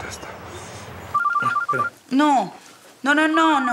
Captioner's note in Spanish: Suena el celular